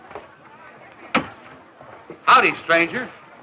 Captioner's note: door thumps closed